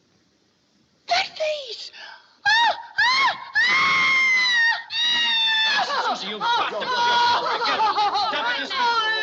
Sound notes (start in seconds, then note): 2.0 gasps; 2.4 screaming; 4.8 screaming, Sobbing